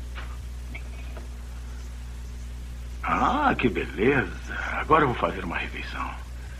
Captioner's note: british Accent